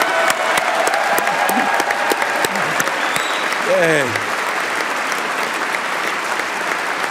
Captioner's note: applause